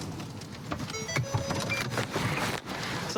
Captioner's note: car notification bell dings